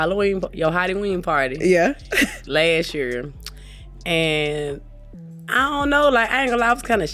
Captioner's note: laughs